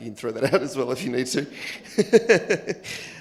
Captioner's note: laughs